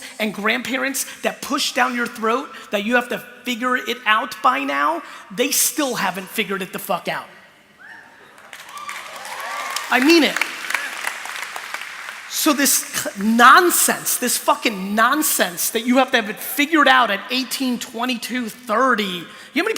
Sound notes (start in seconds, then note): 7.8 cheering